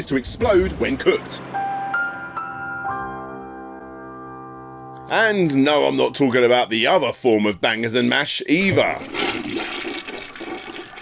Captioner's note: flush